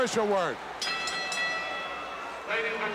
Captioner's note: bell rings